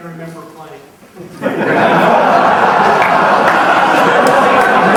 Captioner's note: crowd laughing